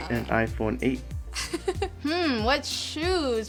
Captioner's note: laughs